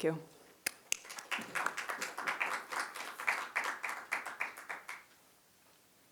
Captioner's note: applause